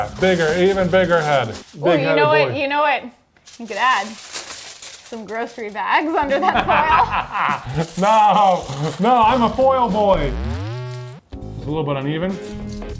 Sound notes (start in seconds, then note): 6.4 laughs